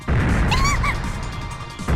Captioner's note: panicked cry